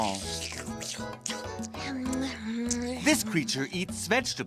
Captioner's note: slurping